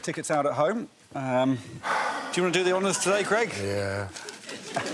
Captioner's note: sighs; laughter